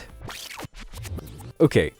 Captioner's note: video screeches